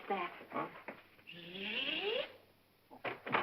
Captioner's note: Gail makes buzzing sound; door opens